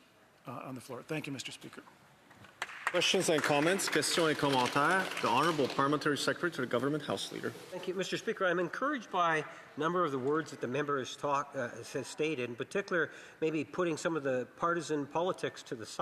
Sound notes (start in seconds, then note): 8.3 speaking French